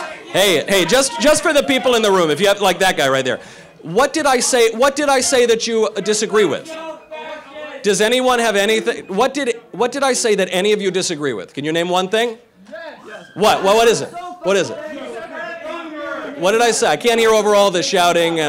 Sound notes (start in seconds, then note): 0.0 protestors chanting; 6.4 protestors shouting; 14.7 protestors shouting